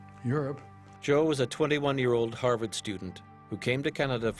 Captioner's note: voiceover